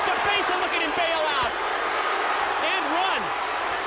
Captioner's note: crowd clamoring